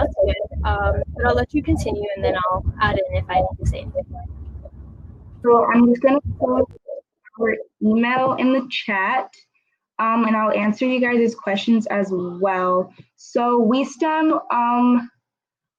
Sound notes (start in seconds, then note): 5.3 technical glitch